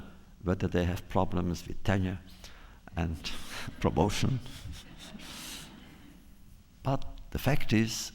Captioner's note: laughter